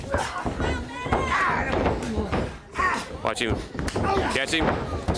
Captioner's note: crowd chatter